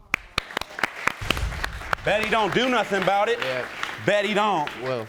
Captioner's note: audience applauding